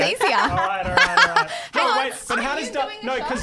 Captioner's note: laughing together